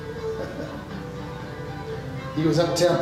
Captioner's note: chuckles